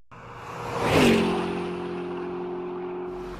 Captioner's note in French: voiture allant à toute vitesse